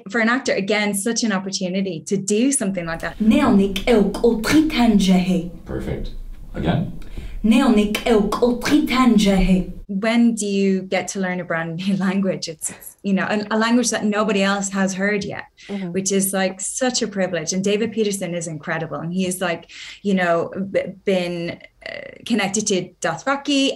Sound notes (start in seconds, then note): 3.1 speaking Sangheili; 7.1 speaking Sangheili